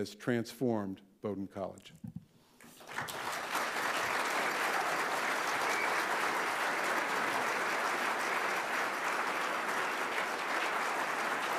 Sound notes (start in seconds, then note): 2.7 audience applauding